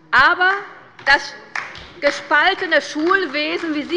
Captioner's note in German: Beifall bei der LINKEN